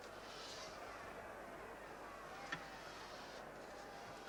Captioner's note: low roar of a crowd